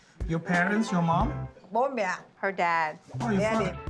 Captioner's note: speaks Vietnamese